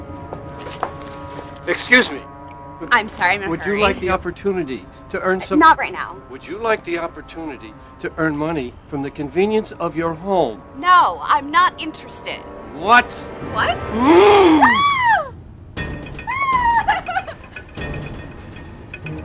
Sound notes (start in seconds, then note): 13.9 screams; 14.0 growls; 15.8 chilling music